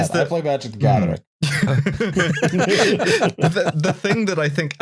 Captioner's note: laughter